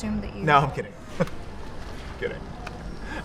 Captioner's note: laughs